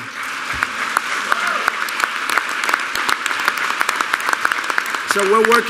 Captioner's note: applause